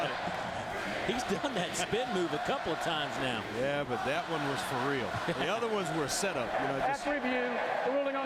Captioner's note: crowd noise